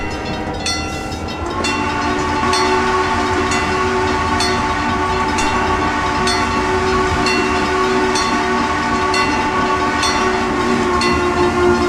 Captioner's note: CNJ Blue Comet Pacific whistle